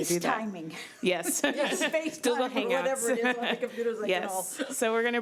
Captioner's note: laughing